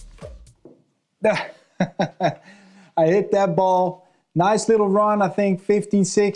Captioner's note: laughs